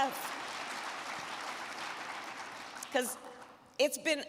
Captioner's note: crowd clapping